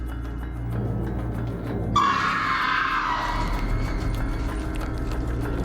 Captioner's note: screaming